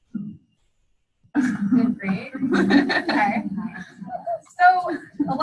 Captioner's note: laughter